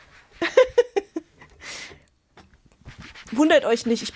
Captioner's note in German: gelächter